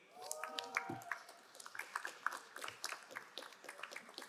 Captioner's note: crowd applauding